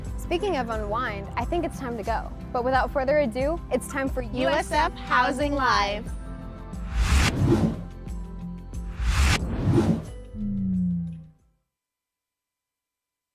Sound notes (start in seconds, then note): 6.8 whooshing; 7.1 gentle music